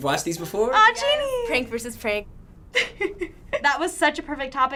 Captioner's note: laughing